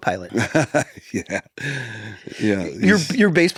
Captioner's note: laughs